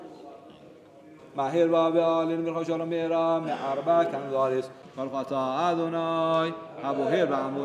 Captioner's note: Arabic spoken language